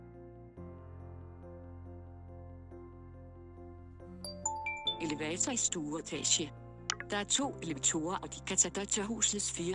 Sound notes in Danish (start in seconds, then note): 4.0 Blip lyd